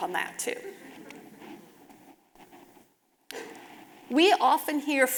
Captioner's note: audience laughing